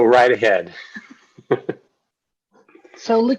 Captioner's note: laughs